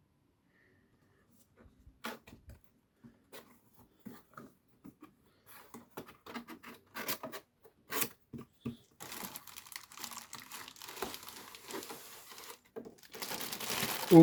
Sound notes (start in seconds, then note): 1.4 box rustling; 9.0 bag rustling